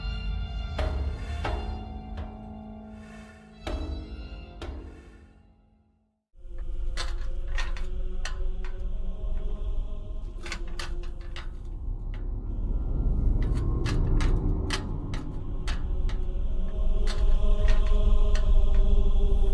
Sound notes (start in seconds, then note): 0.0 dramatic percussive music continues; 6.3 choir singing; 6.3 metal clicking; 14.3 choir singing; 14.3 ominous music